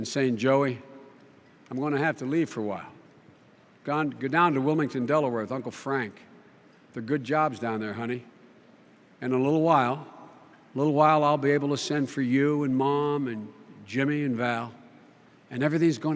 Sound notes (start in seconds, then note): none